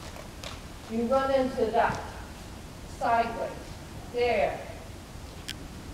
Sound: bumping

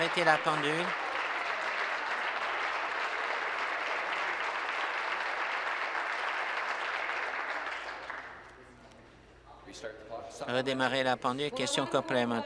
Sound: applause

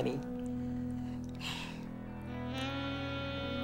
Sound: sighs

